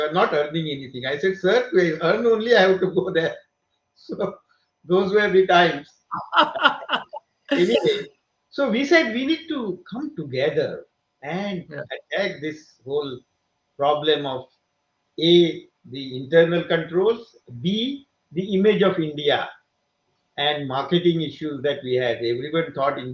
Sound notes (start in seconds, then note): 6.1 laughs